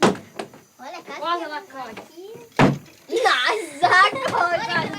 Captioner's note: Portuguese spoken audio